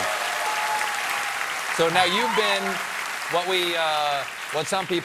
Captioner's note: applause